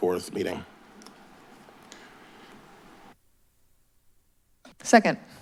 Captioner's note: silence